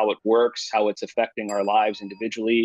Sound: bell dings

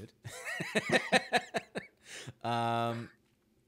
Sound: both laughing

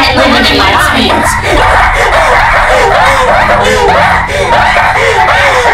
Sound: hysterical laughing

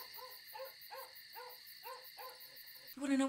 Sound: dog barking

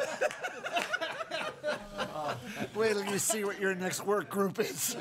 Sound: laughing

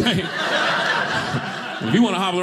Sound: audience laughing

